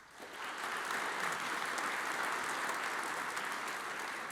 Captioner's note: audience applauds